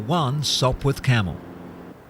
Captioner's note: plane take off